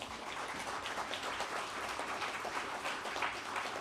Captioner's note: applause